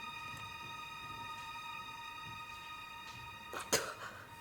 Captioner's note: spits